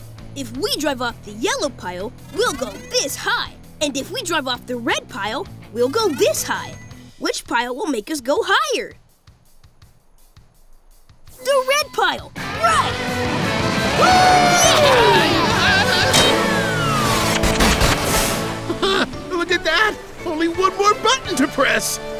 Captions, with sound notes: If we drive off the yellow pile, we'll go this high. And if we drive off the red pile, we'll go this high. Which pile will make us go higher? The red pile, right! [cheering] [screaming] [chuckles] Look at that, only one more button to press!